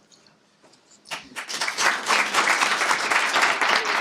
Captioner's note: applause